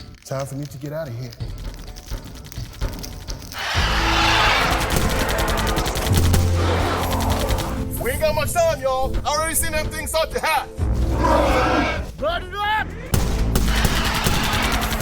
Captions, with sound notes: Time for me to get out of here. [Loud roar] [Gunfire] We ain’t got much time, y’all! I already seen them things start to hatch! [Loud roar] Light it up! [Gunfire]